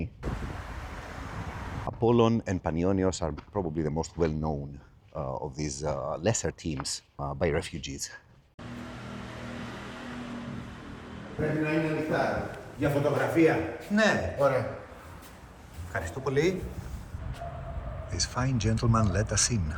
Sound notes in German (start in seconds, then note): 7.3 spricht in einer Fremdsprache; 8.6 Motor dreht hoch